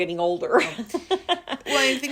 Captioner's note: laughing